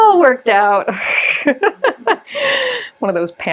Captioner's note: laughs